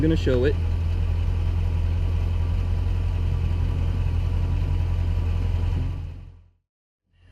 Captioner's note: engine running